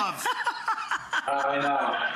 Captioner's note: laughs